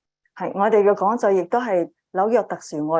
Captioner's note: speaking chinese